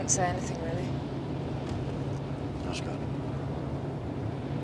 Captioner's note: none